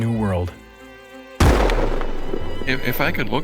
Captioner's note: gunshot